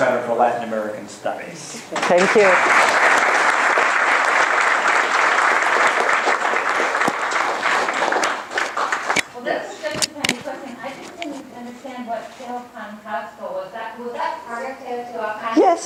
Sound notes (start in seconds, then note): 3.9 applause